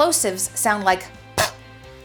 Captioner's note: popping sound